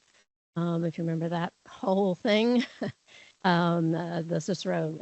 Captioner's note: chuckles